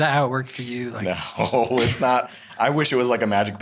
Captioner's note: chuckles